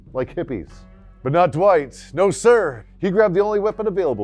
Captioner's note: voiceover